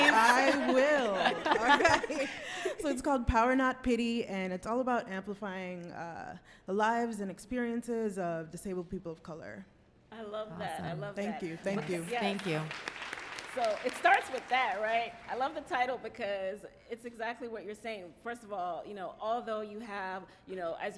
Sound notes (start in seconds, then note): 0.0 laughing; 11.4 applauding